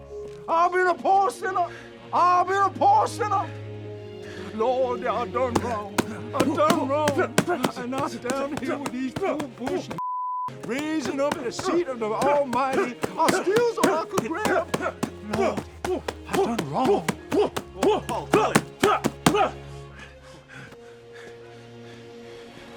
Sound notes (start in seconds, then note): 12.8 loud grunting; 17.3 grunting; 19.7 breathing heavily